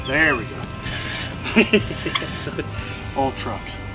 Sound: laughter

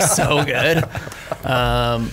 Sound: scattered laughs

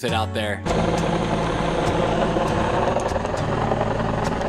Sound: motor rumbling

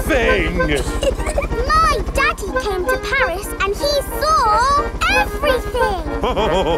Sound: chuckles; all laughing

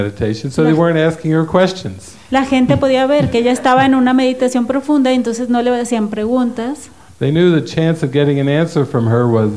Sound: laughs

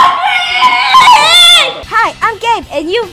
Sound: screams

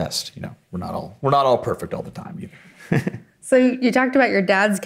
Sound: chuckles

